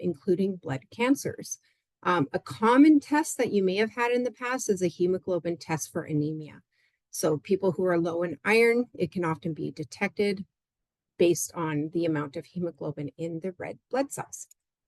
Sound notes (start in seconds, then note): none